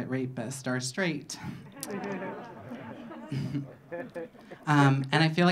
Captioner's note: audience laughing